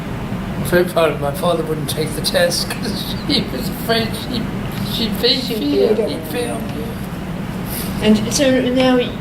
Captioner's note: laughs